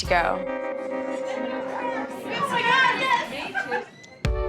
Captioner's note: indistinct chatter